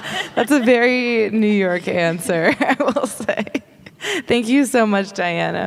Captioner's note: laughing; laughing